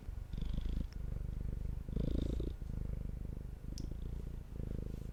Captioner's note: loud purrs